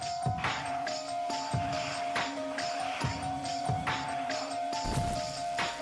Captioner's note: plastic dragging